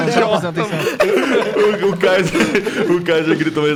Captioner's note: laughing